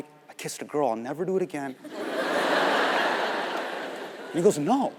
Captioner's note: audience laughing